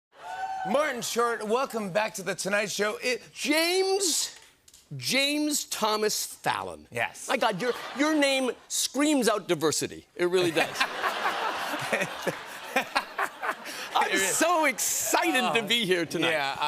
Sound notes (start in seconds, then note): 10.4 laughter